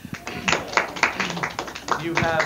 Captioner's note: audience applause